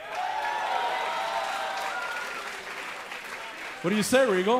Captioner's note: cheers & applause